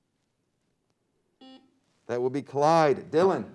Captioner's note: beep